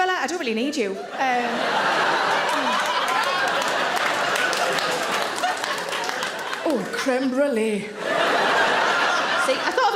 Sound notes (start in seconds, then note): 1.0 audience laughing